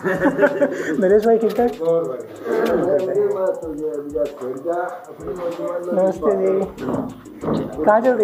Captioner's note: greeting in hindi language